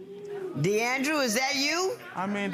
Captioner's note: audience members exclaiming